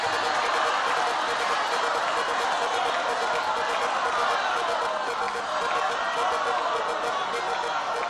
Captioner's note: cheering